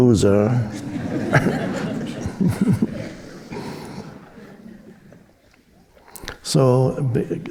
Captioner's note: audience chuckling; Eckhart chuckling